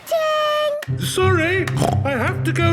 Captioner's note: snorts